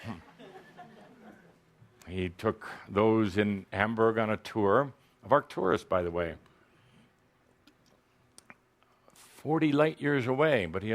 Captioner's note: laughter